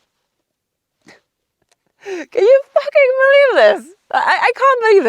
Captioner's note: laughs softly